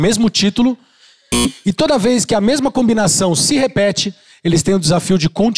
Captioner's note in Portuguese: campainha